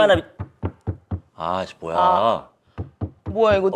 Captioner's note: stomping noises upstairs